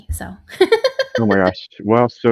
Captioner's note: laughs